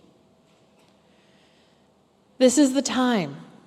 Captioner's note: pause